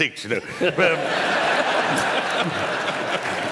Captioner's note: laughter